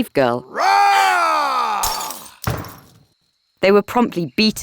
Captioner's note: Paul roaring; glass shattering